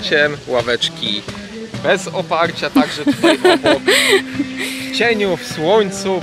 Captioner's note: laughter